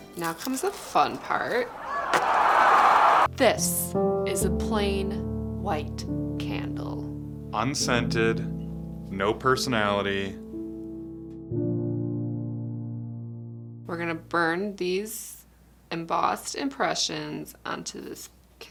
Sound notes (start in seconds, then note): 1.6 audience cheering; 10.2 sad music